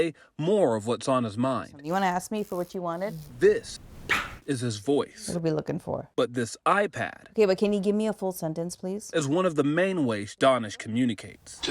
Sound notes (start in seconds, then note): 3.8 vocalizes